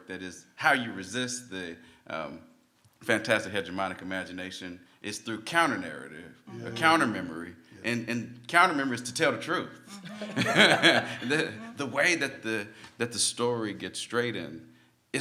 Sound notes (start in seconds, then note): 9.9 laughs